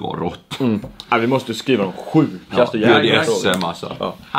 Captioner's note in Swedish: förställd röst